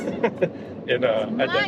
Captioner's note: laughing